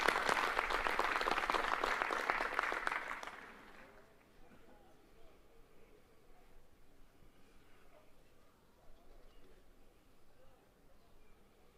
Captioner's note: applause